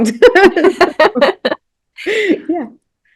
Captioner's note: both laugh